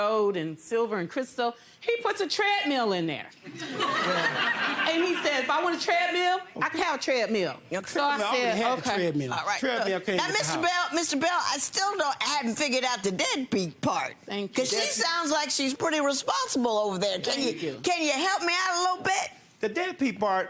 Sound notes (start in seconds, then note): 3.5 audience laughs